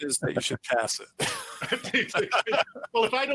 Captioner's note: everyone laughs